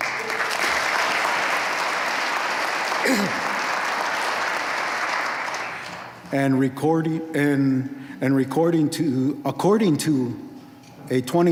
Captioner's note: applause